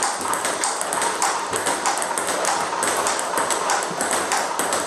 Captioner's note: ball ping pong hitting continues